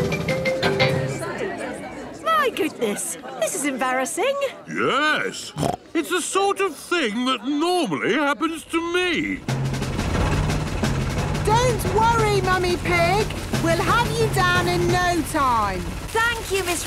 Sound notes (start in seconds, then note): 0.9 all murmuring; 5.4 snorts